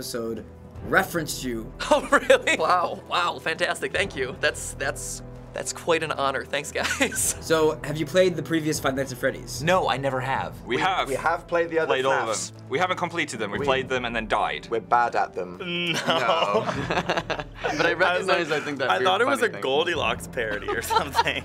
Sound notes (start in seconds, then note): 15.7 chuckling